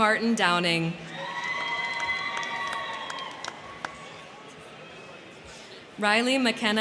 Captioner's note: crowd cheering; crowd clapping